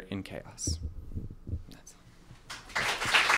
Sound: whipsered; applause

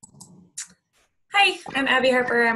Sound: computer mouse clicking

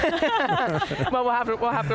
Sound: all laughing loudly

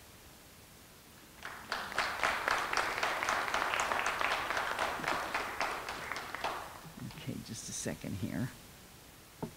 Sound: clapping

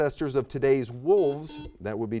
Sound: buzzer beeping

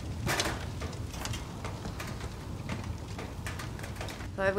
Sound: fire roars

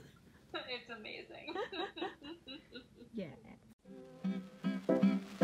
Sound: laughs

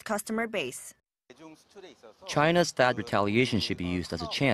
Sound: Korean

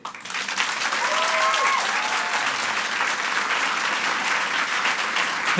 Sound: audience applauds and cheers

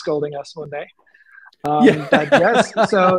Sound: laughter

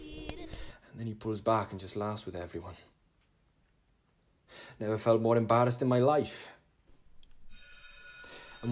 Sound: school bell rings

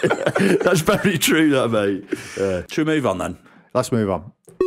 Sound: chime

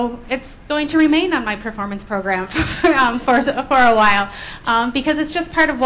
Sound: laughs

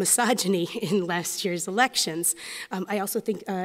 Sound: chuckles

